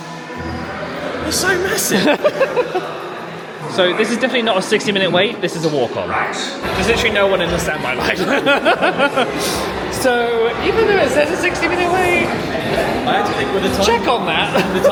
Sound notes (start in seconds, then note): 1.4 laughs; 8.5 men laugh